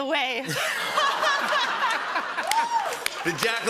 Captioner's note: laughter